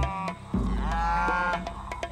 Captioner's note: mooing gets louder